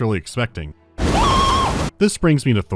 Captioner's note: scream